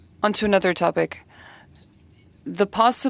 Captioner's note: speaking French